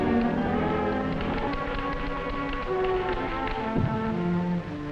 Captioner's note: typewriters clacking